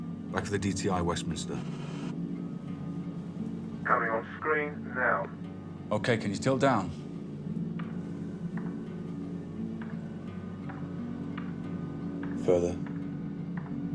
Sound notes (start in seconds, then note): 3.8 man over phone